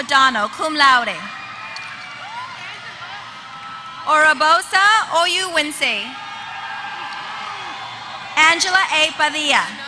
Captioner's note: applause